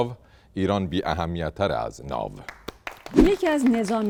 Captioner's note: applause